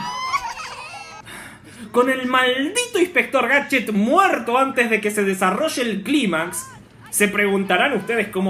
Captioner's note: everybody's still crying; sigh